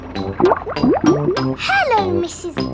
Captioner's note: bubbling